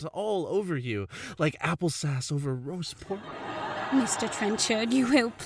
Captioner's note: laughing